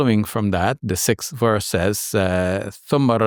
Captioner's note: speaks in Arabic